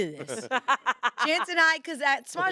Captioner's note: laughs